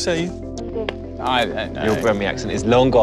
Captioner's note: laughs